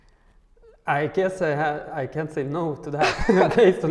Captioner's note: laughs